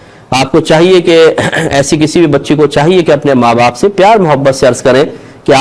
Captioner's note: clears her throat